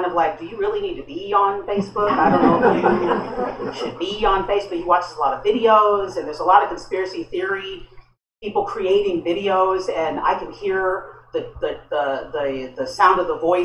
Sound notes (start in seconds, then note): 2.0 laughter